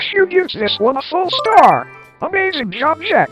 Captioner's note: cute chime